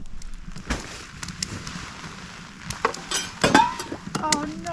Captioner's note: rain